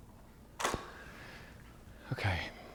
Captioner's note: shutter clicks